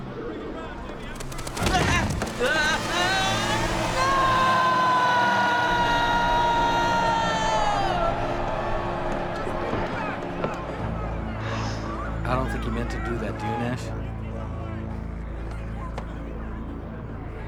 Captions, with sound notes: (Joel screaming) - I don't think he meant to do that, do you, Nash?